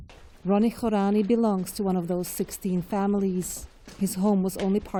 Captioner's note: voice-over